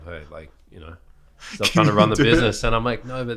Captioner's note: laughing